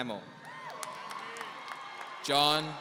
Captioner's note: audience cheering